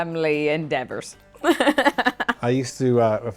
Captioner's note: chuckles